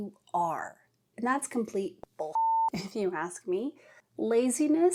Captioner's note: beep